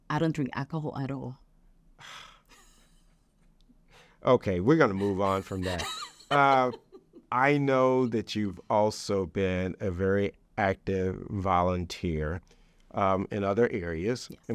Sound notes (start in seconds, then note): 2.0 sighs; 2.2 laughs